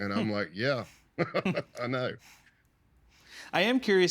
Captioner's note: chuckling